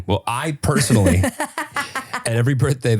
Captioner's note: laughing